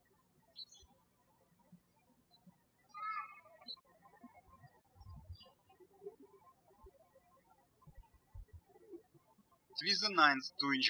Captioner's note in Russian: птички щебечут